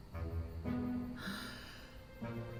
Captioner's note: sighs